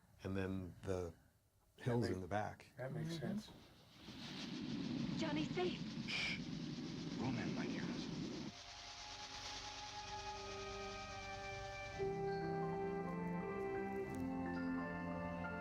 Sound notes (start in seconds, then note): 1.8 whooshing sound; 8.1 gentle music plays